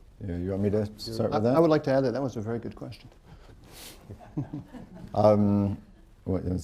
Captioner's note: laughter